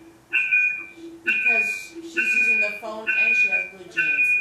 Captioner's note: loud technical noises